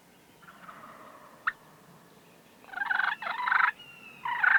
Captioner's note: turkey gobbling